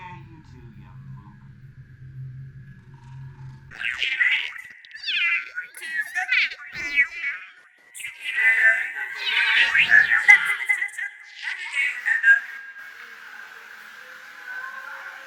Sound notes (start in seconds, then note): 2.8 clattering; 4.1 static and indistinct electronic voices